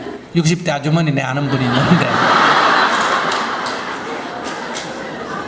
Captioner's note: audience Laughter